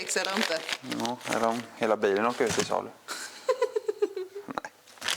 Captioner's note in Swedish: skratt